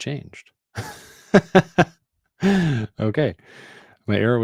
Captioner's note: chuckles